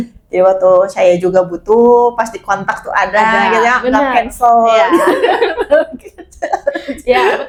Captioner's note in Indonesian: tertawa